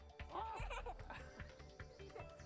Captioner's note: laughs